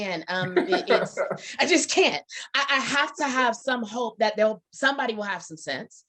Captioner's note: Bob laughs